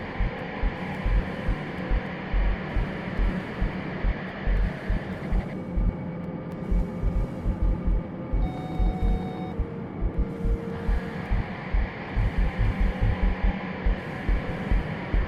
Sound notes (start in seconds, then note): 8.4 soft beeping